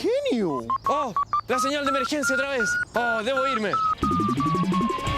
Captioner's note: emergency signal sound